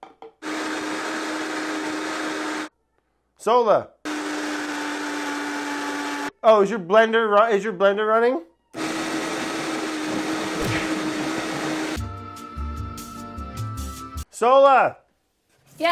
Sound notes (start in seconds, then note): 0.4 blender whirring; 4.0 blender whirring; 8.7 blender whirring; 11.5 soft music